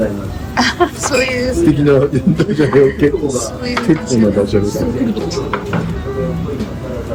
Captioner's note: laughs